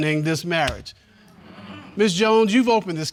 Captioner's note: audience groaning